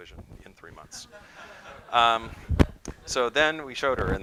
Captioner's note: laughter